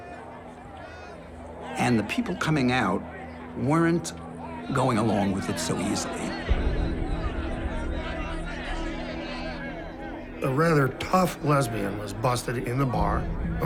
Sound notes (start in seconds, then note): 6.8 arguing